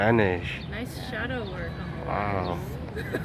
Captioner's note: laughs